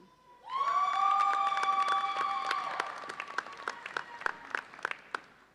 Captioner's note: audience cheers and applauds